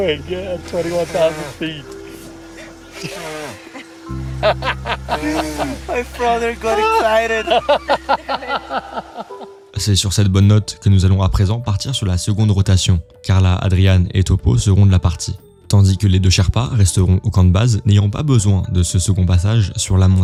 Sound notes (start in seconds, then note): 7.2 laughs